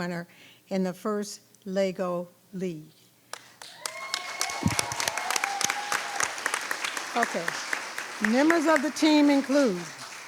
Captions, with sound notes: in the FIRST LEGO League. (people cheering) (people clapping) Okay, members of the team include: